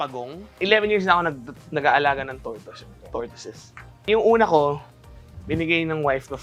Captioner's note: none